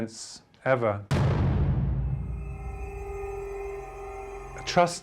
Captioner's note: object thuds